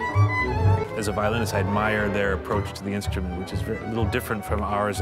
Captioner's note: none